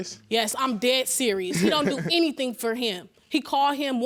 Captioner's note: laughing